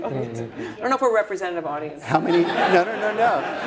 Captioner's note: laugh